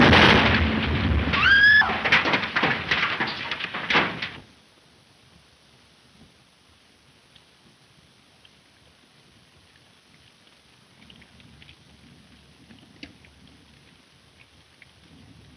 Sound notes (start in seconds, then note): 0.0 explosion booming; 1.3 Mary screams; 2.9 debris clattering